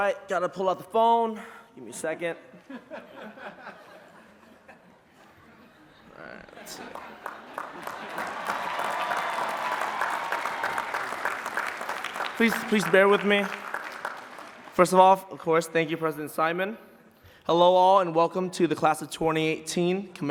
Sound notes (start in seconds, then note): 2.6 laughing; 6.8 applause and cheering